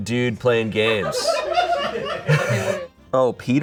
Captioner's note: audience laughing